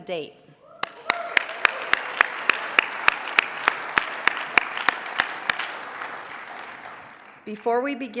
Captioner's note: applause